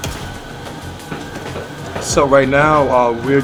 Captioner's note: machines whirring